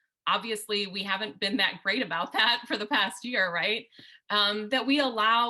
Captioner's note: laughter